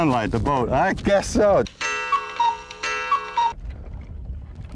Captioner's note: more Cuckoo Clock sounds